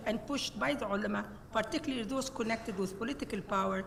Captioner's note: speaks Arabic